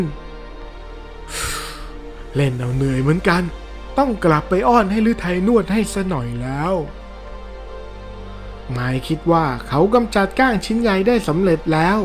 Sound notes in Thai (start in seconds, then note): 1.3 เสียงถอนหายใจ; 1.3 เสียงหายใจอ้าปากค้าง